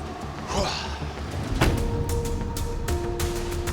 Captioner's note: grunts